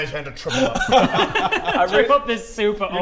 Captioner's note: cold-hearted laugh